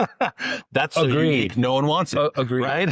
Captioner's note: laughs